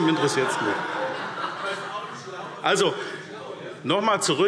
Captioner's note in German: Lachen BÜNDNIS 90/DIE GRÜNEN